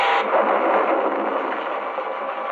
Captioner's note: explosion booming